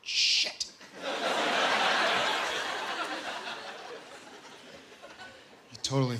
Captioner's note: laughter